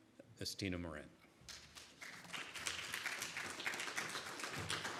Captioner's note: audience applauds